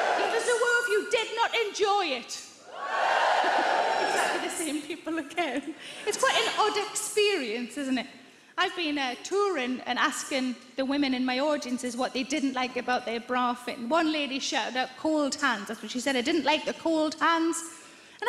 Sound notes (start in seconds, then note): 0.0 many people cheer; 2.6 many people cheer louder